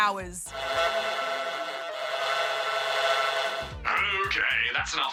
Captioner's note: excessive honking